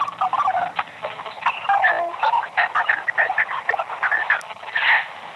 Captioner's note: radio crackling